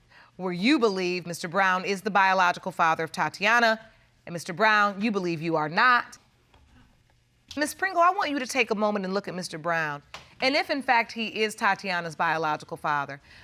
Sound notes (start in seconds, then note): none